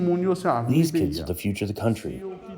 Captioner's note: through translator